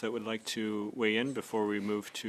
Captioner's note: speaking French